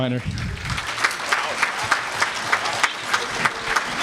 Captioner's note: applause